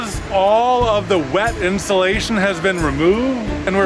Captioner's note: none